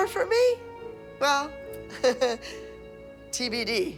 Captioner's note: chuckles